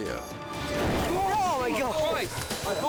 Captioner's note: all shout; flames whoosh